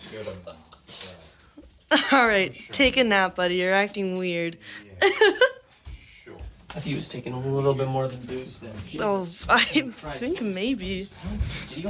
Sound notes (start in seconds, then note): 5.0 giggles